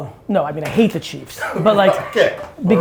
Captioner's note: laughing